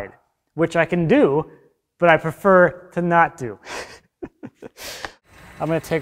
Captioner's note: laughs